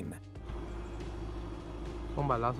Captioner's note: plane engine revving; man speaking in foreign language